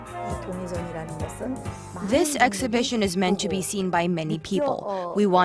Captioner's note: korean